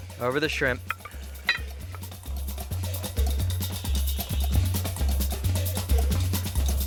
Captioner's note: upbeat music; spoon clinking